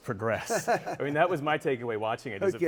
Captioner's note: laughs